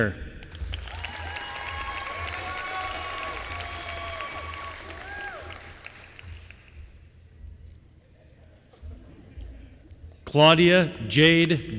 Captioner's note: applause